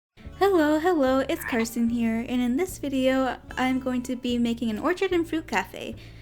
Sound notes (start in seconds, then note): 1.4 frog croak!